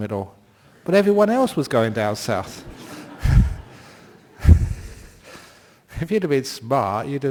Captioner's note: laughter